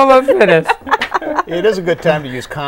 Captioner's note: laughing